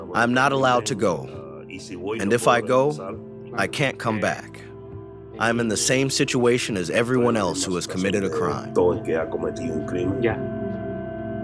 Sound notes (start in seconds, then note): 0.7 through translator